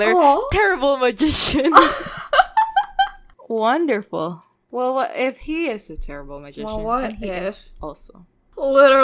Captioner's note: laughing